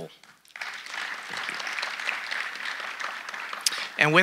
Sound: audience applauding

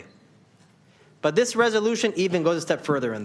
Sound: none

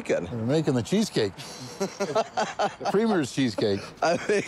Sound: laughing

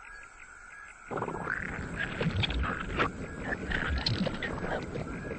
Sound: muddy bubbling

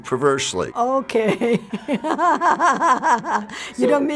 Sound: laughs

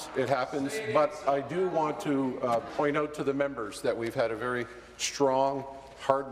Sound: chorus of "No"

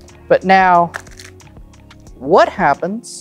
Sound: cards riffling

